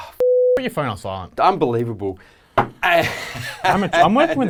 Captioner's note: laughing